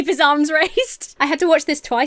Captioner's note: Emma laughs